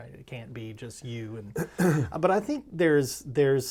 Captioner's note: clears throat